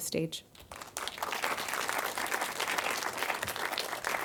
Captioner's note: audience applauding